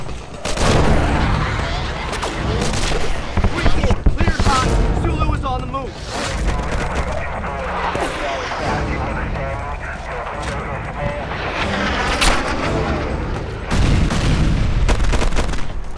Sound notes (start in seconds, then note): 0.3 guns firing; 6.2 guns firing; 6.4 radio chattering; 12.0 guns firing; 13.6 explosion booming